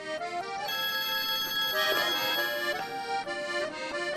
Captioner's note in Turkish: Telefon çalıyor